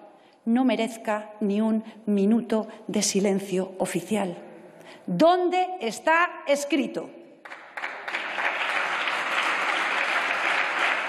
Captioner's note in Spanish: Aplausos